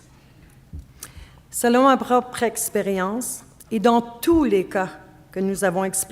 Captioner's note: speaking French